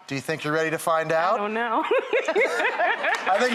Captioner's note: laughs